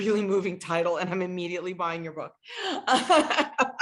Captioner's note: laughs